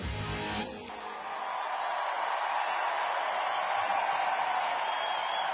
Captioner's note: cheering and applause